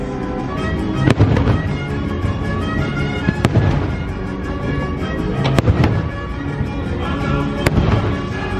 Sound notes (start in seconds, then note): 0.0 bright music; 0.9 fireworks popping